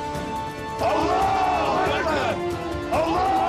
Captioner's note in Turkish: Hep bir ağızdan